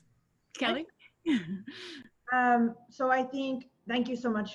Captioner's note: laughing